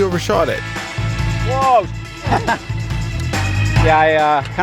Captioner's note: chuckles